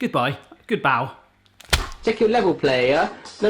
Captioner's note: splatting